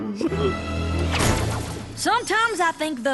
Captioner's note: slam